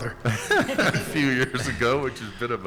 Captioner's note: laughing